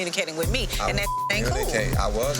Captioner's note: beep